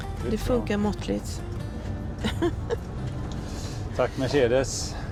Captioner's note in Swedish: skratt